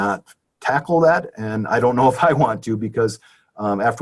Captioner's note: chuckles